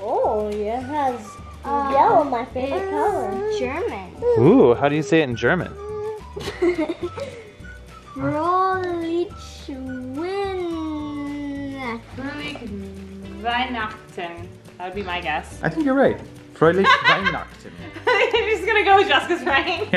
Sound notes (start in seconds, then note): 6.3 giggle; 16.8 laughs